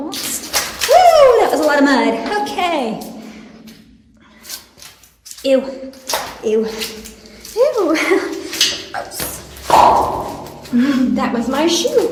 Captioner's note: popping sound